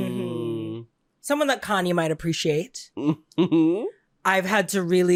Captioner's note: giggling